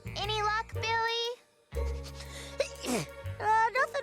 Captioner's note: sniffing, sneezes